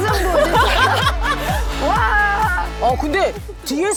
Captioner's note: laughing brightly